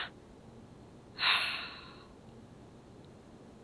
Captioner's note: sigh